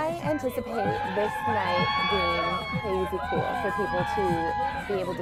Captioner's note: people cheering